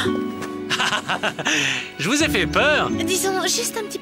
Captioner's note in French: rire